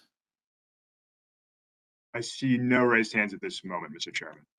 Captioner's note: A pause